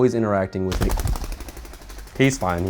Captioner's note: bird flapping wings